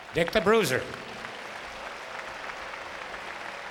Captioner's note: applause